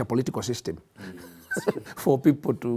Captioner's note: laughter